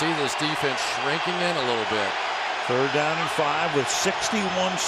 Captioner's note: crowd cheering